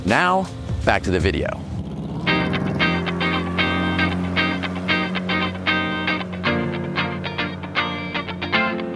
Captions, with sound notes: Now, back to the video. (upbeat music) (boat engine roaring)